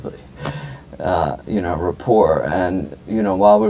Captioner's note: chuckle